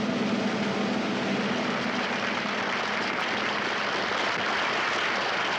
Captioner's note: audience applauds